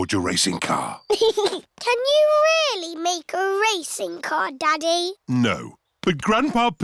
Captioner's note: chuckles